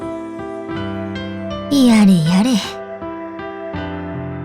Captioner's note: sigh